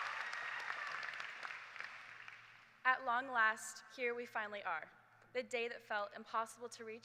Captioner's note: cheers and applause